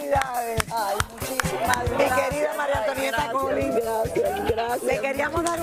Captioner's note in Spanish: aplausos